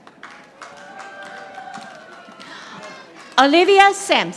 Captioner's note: audience applauding